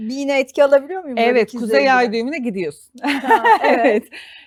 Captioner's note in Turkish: kahkaha